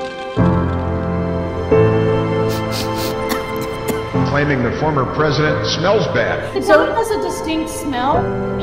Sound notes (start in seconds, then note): 2.5 person sniffing and coughing